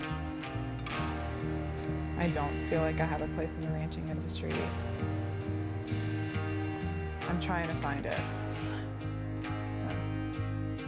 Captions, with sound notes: I don't feel like I have a place in the ranching industry. I'm trying to find it, (laughs) so.